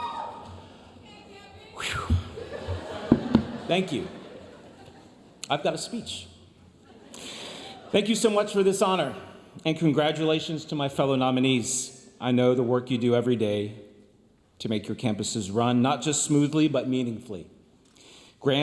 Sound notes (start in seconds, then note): 1.8 breathes sharply; 2.1 audience laughs